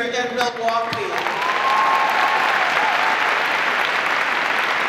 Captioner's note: audience applause